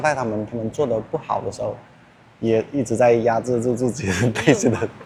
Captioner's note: anger